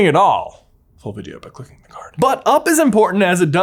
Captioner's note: whispers